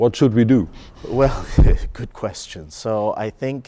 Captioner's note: laughing